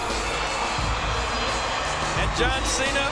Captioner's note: crowd cheering